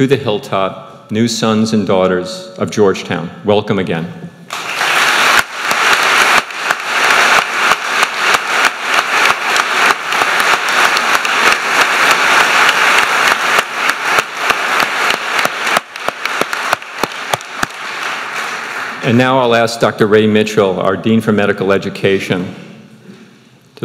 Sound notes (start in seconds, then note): 5.5 crowd cheering